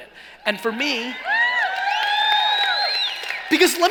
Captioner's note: cheering